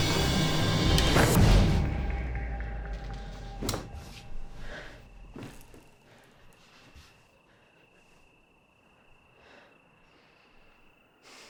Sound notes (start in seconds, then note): 1.3 sheet whooshes; 4.1 Claire breathes heavily